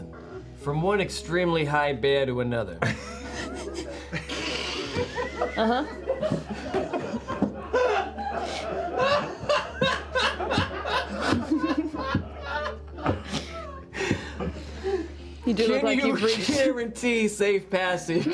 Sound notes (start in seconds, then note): 2.8 laughter